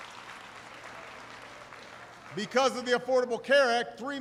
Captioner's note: applause